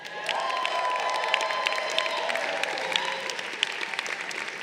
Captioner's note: crowd cheering